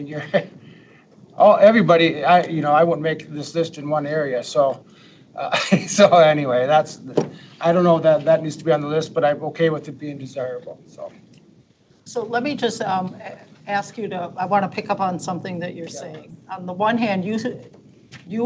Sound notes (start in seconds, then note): 0.1 chuckles; 5.4 laughs